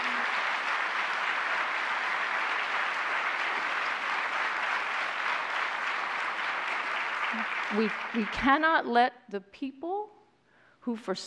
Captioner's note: applause